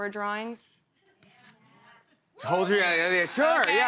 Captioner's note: scattered responses